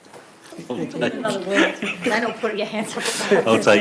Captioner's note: laughs